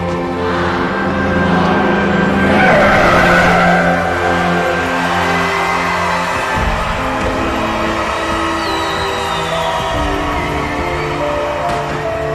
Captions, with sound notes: 'five, four, three..' [tires screeching] [fireworks crackling]